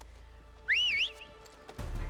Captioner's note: whistle